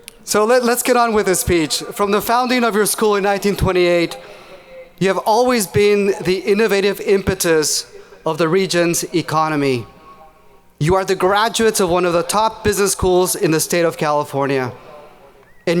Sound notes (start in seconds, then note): none